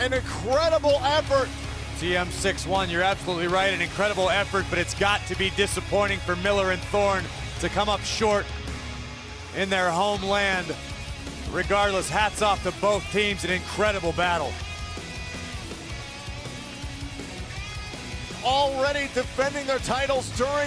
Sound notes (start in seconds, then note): none